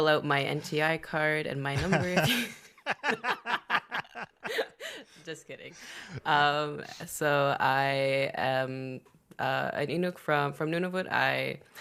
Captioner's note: laughter